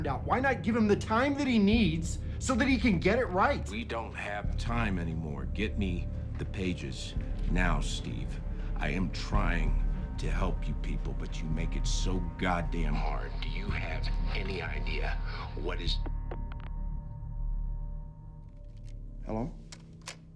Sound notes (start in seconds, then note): 16.1 call disconnects